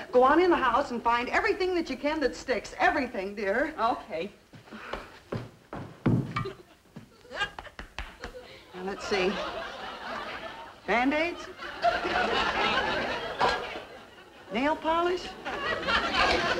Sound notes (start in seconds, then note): 12.1 audience laughing